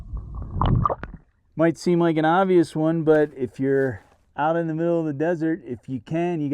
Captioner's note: wind noise, water gurgling